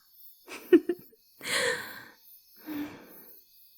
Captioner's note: sighing contentedly